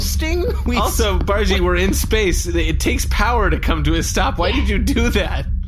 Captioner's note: laughing